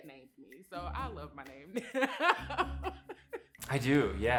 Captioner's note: laughs